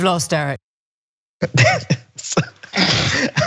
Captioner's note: laugh